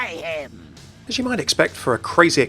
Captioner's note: voiceover